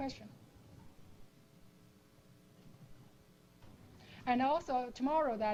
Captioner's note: pause